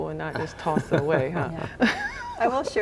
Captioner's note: laughing; chuckling